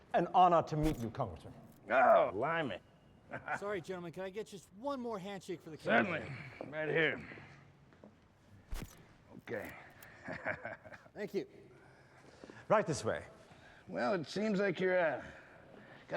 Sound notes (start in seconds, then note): 8.7 camera shutter clicks; 10.0 chuckles